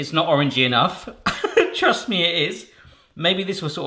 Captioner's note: laughing